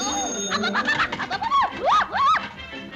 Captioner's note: elevator bell ringing; stammering nervously